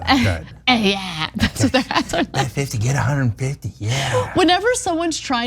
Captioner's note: laugh